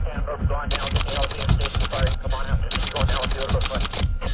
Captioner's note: typewriter clicking